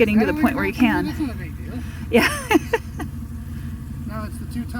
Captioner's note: laughing